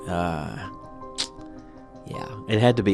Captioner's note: clicks tongue